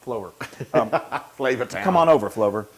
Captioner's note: laugh